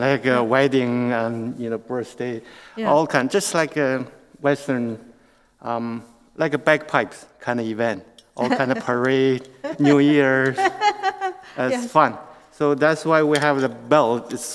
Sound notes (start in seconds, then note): 9.6 laughs